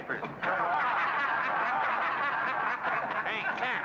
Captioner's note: men laugh